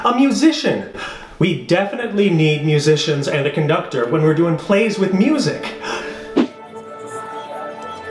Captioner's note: whooshing noise